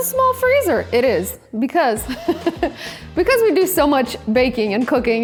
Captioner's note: laughs